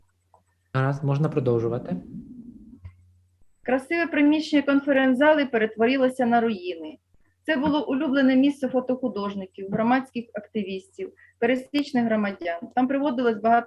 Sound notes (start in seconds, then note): 0.9 foreign Language